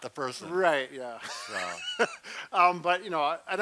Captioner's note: laughs